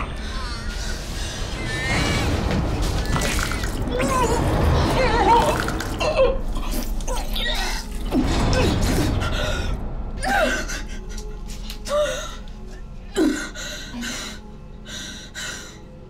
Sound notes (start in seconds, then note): 3.0 vomit splashes; 3.0 gagging; 10.6 breathes heavily